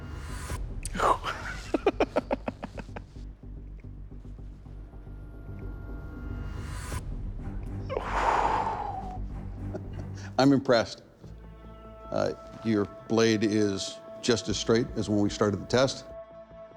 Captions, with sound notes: Ooh. [laughs] [exhales heavily] I'm impressed. Your blade is just as straight as when we started the test.